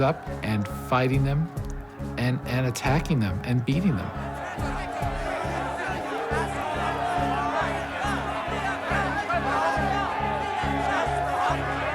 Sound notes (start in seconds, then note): 4.2 yelling and clamoring